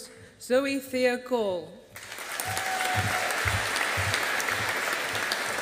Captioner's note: audience applauding